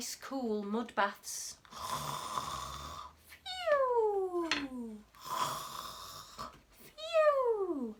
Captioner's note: snoring